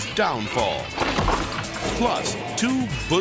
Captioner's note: person thuds; ladder thuds; screen whooshes